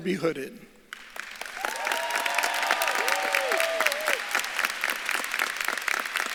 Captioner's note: audience claps and cheers